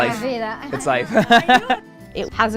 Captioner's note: speaks foreign language